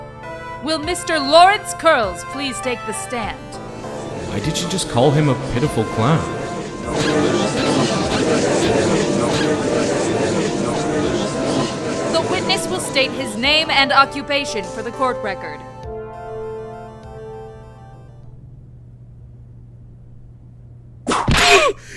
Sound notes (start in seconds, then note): 7.1 gallery chattering, clown shoes squeaking; 10.3 gallery chattering; 21.0 whip crack!